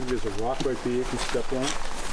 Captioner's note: loud footsteps, as if through rough terrain